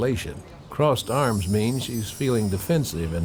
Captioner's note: bells chiming